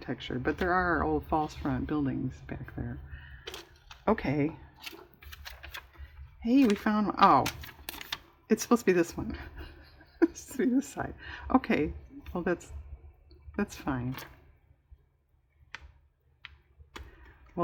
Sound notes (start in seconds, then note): 9.3 laughs